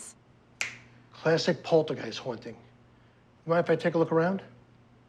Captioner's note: snaps